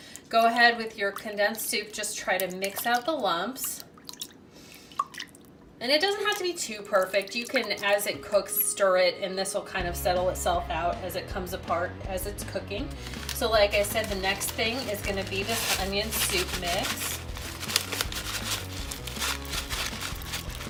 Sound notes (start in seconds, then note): 17.1 powder shaking